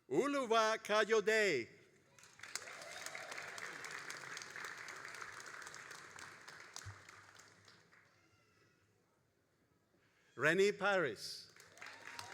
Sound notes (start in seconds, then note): 2.1 all applauding